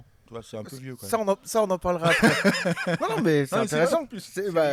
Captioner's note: laughs